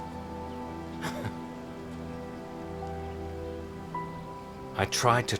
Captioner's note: Nick chuckles